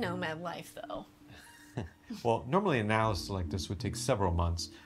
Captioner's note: chuckles